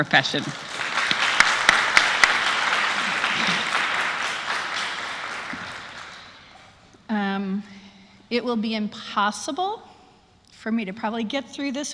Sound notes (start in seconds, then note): 0.0 applause